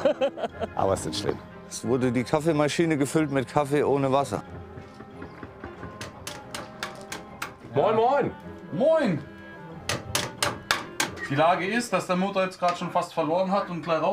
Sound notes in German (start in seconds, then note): 9.8 Hämmern